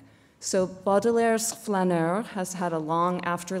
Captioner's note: non-english speech